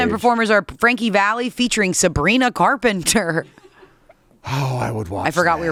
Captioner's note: chuckles